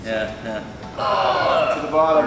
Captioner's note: all grunting